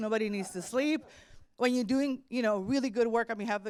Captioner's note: laughter